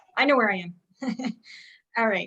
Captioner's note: chuckles